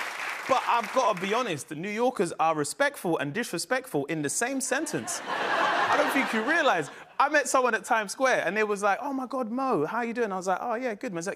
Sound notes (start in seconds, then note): 4.9 laughter